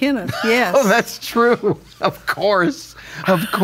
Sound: laughs

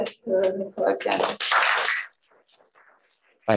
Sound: applause

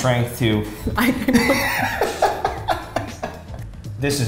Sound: laughs

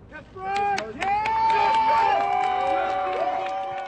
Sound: applause; cheering

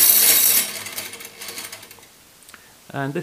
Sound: screeching stops

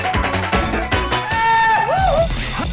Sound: goofy Yell

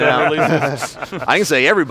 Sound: laughing

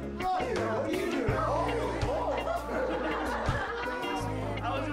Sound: laughing

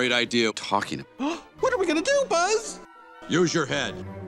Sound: gasp

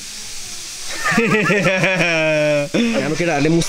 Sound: laughing

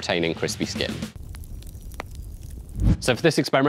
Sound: fire crackling

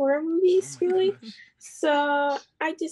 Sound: chuckles

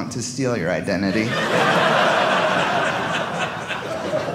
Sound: audience laughing

